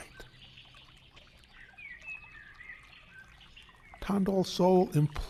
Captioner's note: birds chirping